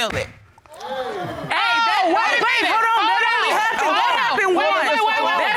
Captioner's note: audience gasps